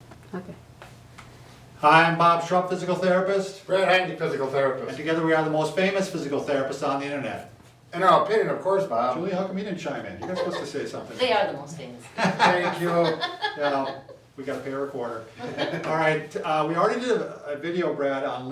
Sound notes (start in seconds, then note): 10.2 laughs; 12.1 laughs